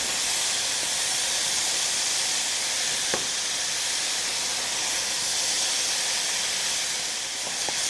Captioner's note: sizzling